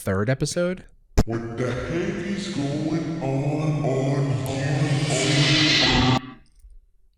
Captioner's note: deep, slowed-down voice